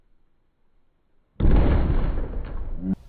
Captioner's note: crash